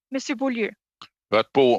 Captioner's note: speaking French